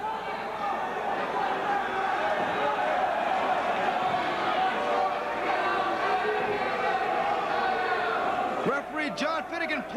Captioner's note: crowd cheering